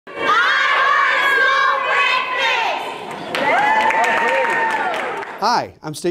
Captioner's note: applause